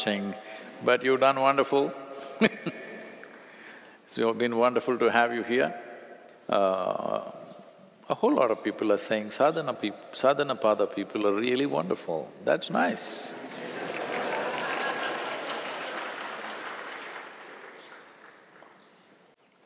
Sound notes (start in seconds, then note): 3.3 laughs; 16.1 laughter/Applause